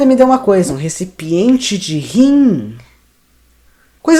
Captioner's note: confused